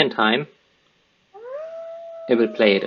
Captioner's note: wolf howling